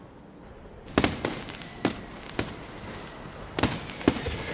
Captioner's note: fire crackers on the street